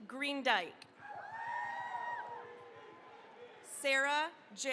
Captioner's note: cheering, applause